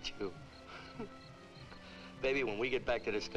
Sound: Nona chuckles

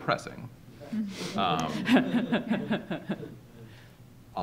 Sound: laughter

